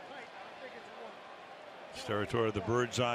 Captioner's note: onfield chatter